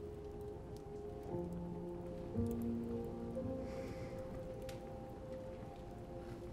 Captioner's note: fire crackling; gentle music